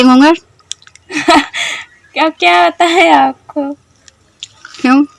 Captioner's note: chuckles nervously